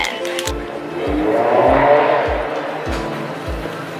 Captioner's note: loud exhaust in the distance